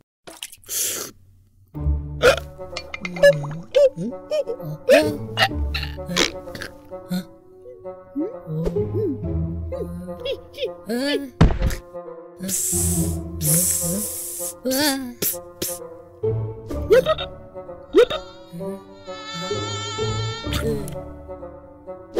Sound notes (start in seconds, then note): 0.4 slurping; 1.8 funky music; 2.6 choking; 10.7 sound of falling; 12.5 hissing; 16.8 croaking; 19.0 fly buzzing